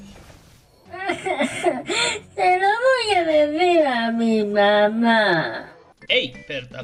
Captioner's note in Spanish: Sollozando